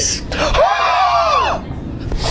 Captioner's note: sighs angrily